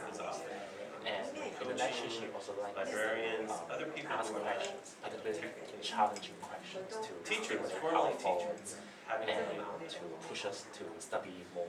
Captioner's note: small group discussion